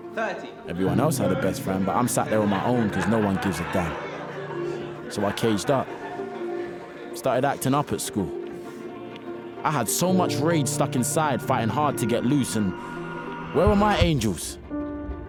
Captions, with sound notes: - Thirty - Everyone else had the best friend, but I'm sat there on my own because no one gives a damn! [Students laughing] So, I caged up. Started acting up at school. I had so much rage stuck inside fighting hard to get loose and.. Where were my angels?